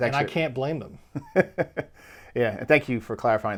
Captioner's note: laughing